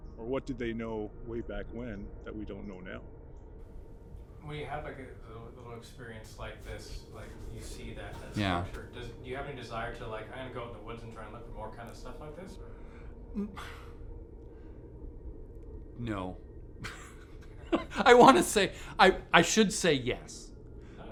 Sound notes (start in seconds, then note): 13.3 sighs; 16.8 laughs